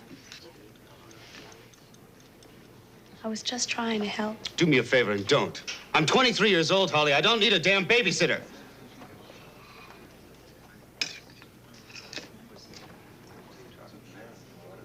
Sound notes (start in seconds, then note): 11.7 cutlery scraping; 12.4 background chatter